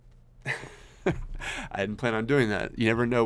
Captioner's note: laughing